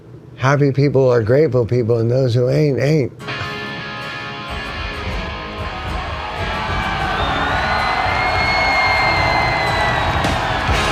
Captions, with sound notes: happy people are grateful people. And those who ain't ain't. (rock music) (audience cheering)